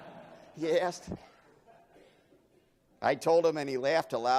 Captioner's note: laughing